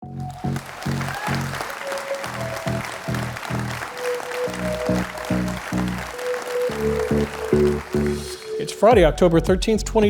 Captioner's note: applause